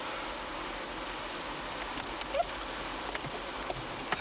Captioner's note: rain pattering